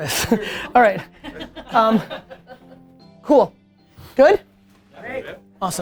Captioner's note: group laughter